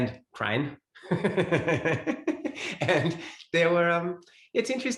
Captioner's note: both laugh